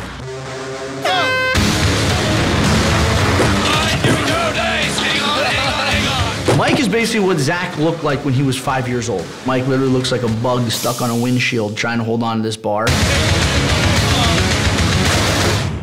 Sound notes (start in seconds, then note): 1.0 air horn blows; 5.4 laughs